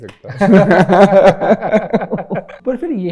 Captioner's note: laughter